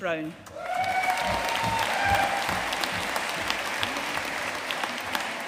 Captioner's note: audience cheering and applauding